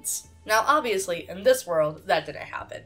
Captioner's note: none